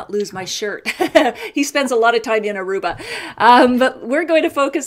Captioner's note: laughs